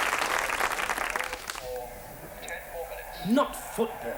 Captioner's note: muffled television announcer